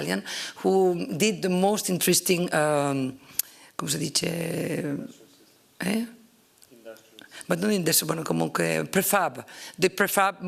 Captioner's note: italian